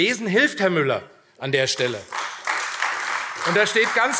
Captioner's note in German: Beifall AfD